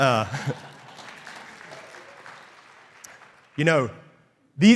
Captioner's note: crowd applauding